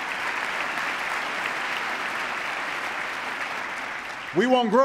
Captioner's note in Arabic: تصفيق